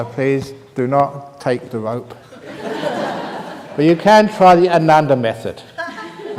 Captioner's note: laughter